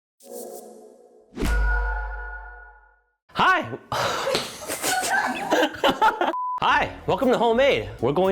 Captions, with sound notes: (bright electronic tones) - Hi! (laughs) Hi! Welcome to Homemade.